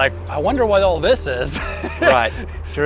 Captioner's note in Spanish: ríe